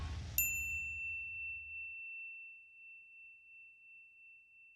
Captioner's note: bell dings